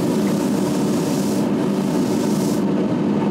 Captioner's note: loud whirring of the grinding machine